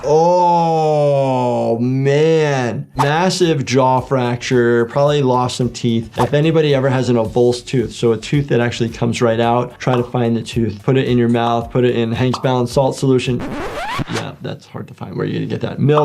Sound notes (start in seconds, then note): 13.3 disk scratches